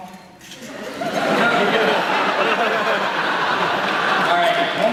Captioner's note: laughter